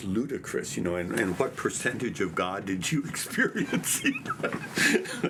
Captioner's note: laughs